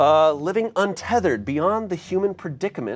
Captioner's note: none